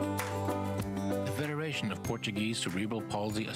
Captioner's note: applause